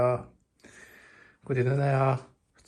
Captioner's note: takes a deep breath